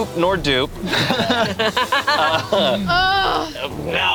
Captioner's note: group laughs